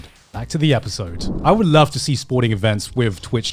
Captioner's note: screen warping